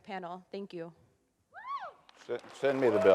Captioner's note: audience cheers